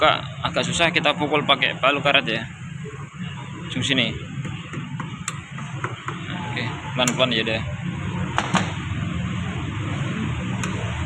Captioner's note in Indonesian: hammer